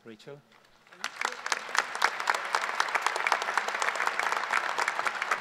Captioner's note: audience applause